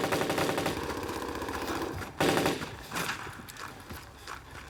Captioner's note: gunfire on tv continues